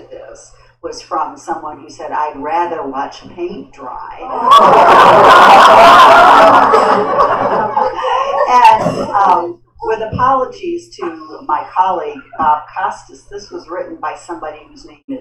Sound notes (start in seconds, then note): 4.4 laughter